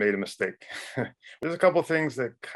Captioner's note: man laughs